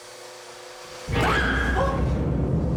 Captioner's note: screams